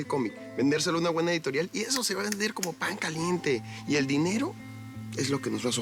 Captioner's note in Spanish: tronando dedos